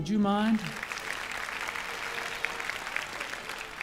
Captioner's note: crowd applauding